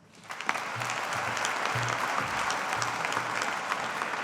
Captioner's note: audience applauding